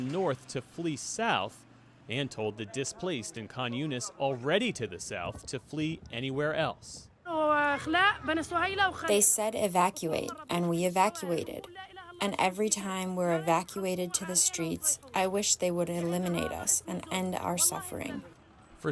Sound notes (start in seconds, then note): 9.5 through translator